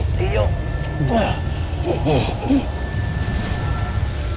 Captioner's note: grunts & groans; evil energy whoosh & crackle